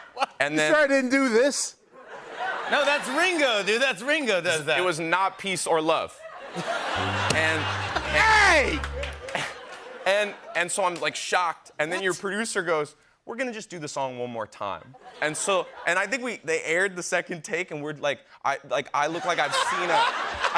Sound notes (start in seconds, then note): 6.2 laughter; 7.0 sad trombone plays